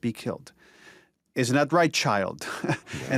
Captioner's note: chuckles